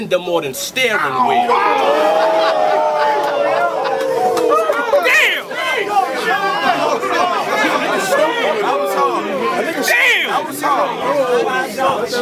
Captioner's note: crowd Reaction